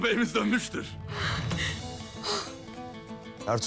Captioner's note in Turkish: Nefes sesi